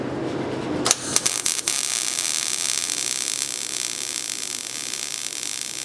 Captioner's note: arc discharge